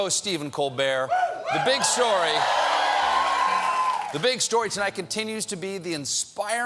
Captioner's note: cheers and applause